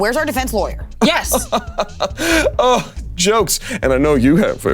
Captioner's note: Damien chuckling